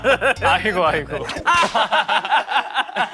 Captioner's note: slapping